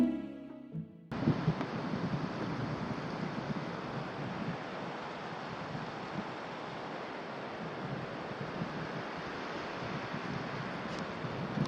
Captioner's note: violins plucking; quiet water flowing